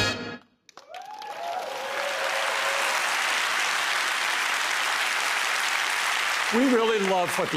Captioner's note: applause